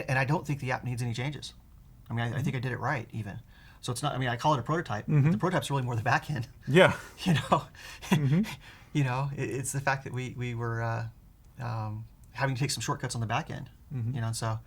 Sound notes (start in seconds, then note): 7.9 laughs